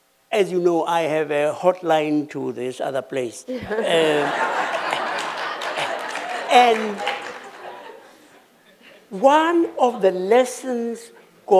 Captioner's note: laughter